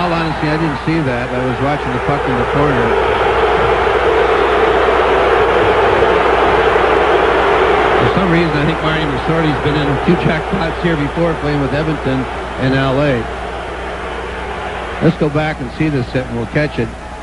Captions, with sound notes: In all honesty I did not see that I was watching the puck in the corner ! *Spectators booing players* For some reason Marty has been in a few jackpots here before playing in Edmonton and LA Let's go back to see this hit and we'll catch it.